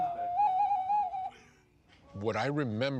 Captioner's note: plays flute; laughing